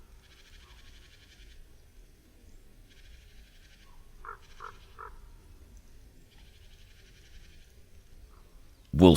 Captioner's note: szum wiatru, krakanie kruka, głosy sikor